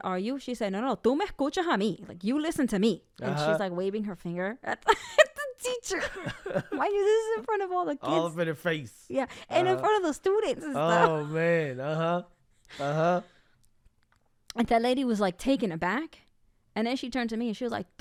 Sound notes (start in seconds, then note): 1.3 speaks in Spanish